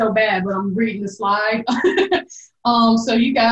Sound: laughs

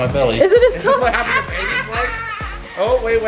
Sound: laughs loudly

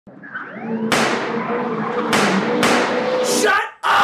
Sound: police Siren & Gun Shots

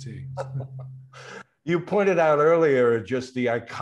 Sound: laughs

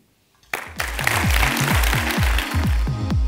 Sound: applause; upbeat music

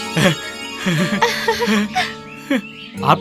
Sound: laughs

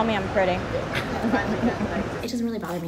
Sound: laughs

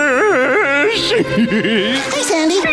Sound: laughing

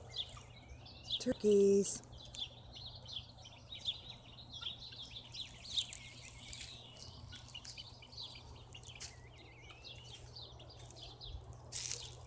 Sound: leaves crunching

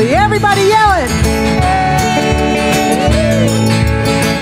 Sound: yelling

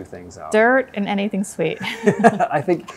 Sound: laughing

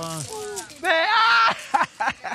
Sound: excited screaming; laughing

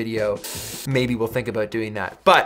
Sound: hisses

